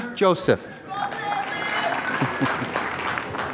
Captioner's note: applause